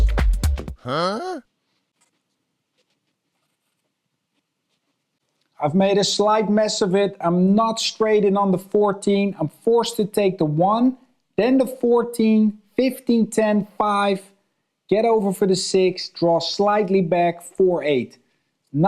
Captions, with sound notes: - [Voiceover] Huh? - I've made a slight mess of it. I'm not straight in on the 14. I'm forced to take the one. Then the 14, 15, 10, five. Get over for the six, draw slightly back. Four, eight.